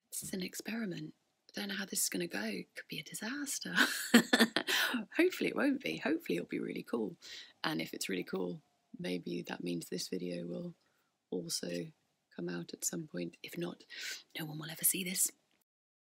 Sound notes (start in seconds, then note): 3.8 laughs